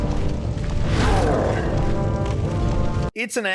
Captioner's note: monster growls